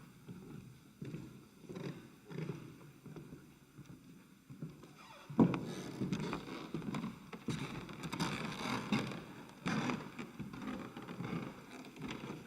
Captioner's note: floorboards creak